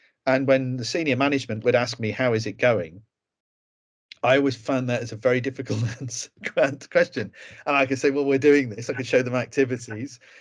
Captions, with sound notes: And when the senior management would ask me, how is it going? I always found that it's a very difficult question [laughs] and I could say, well, we're doing this, and we’d show them activities.